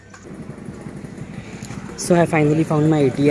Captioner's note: bell sounds